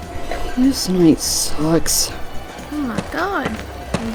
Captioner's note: sighs